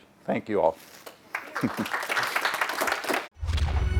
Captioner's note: applause